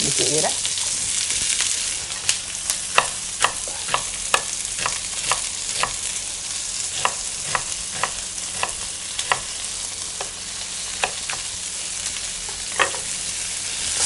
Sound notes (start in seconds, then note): 0.0 sizzling pan; 1.9 chopping onions